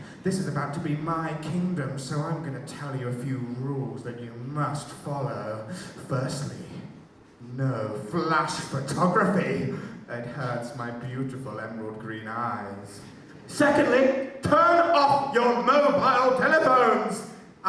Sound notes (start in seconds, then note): none